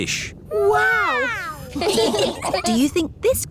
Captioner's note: laughing